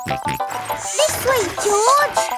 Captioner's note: george snorts